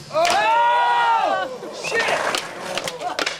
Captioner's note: cheering